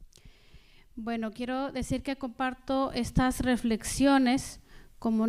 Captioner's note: speaking spanish